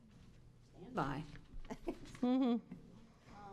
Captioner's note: chuckling